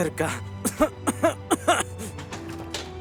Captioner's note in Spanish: Tosiendo